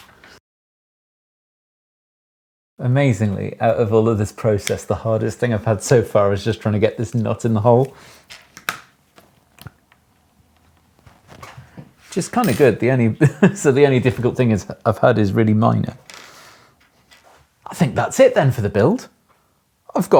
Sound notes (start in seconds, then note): 11.3 table squeaks; 13.2 chuckles